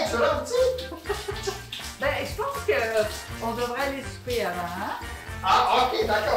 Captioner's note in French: rire